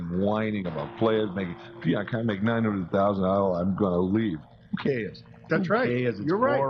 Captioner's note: whining voice